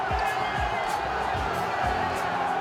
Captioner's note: cheering